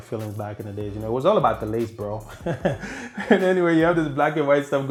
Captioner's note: laughing